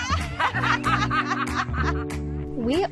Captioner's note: laughter